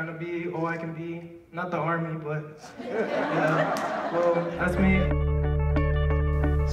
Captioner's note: laughter